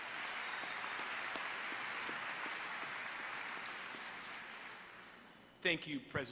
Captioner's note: applause